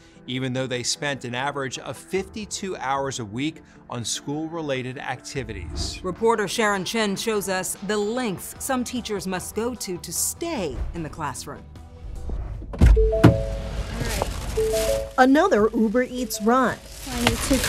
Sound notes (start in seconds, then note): 12.9 car chimes